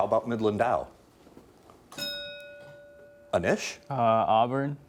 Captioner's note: bell dinging